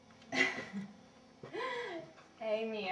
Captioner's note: chuckling